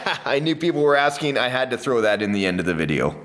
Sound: chuckles

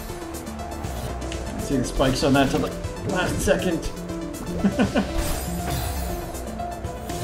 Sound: chuckles

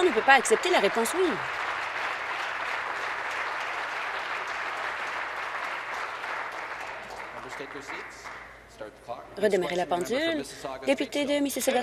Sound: applause

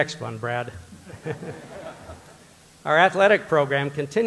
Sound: audience laughter

